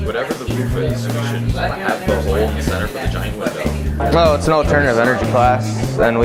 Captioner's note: students chatting